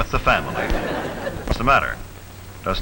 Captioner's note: audience laughs